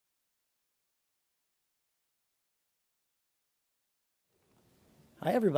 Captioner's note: none